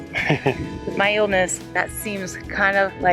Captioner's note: laughs